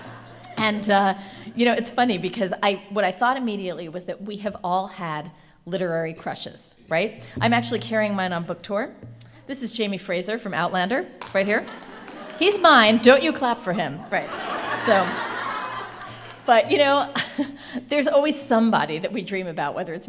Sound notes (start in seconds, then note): 11.2 applause; 14.0 laughter